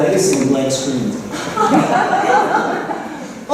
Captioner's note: laughter